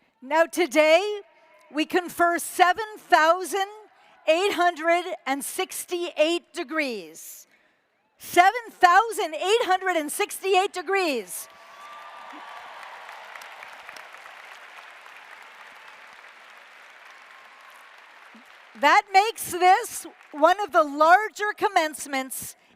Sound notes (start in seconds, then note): 11.4 applause